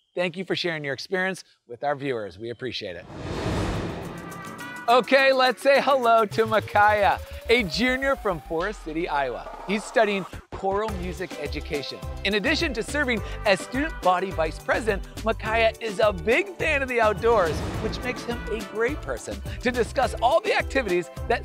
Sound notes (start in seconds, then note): 3.0 graphics whooshing